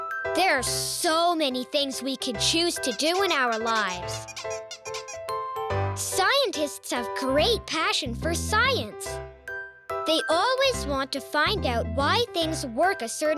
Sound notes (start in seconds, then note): 2.8 squeaking